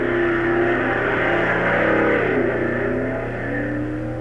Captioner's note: engines roaring